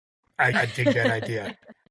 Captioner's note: laughing